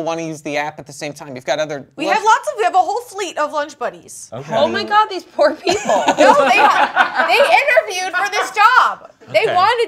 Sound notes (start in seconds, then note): 5.7 laughs